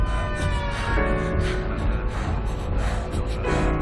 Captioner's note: panting; cars honking